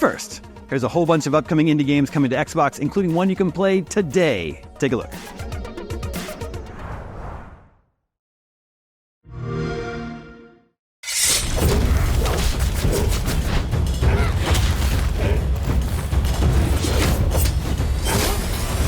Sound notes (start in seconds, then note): 9.4 xbox sound; 11.0 scraping steel and crunchy, visceral combat sounds; 15.6 thundering music